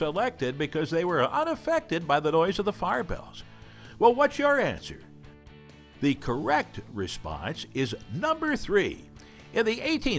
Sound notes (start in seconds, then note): none